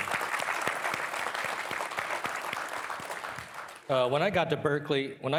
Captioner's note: participants applauding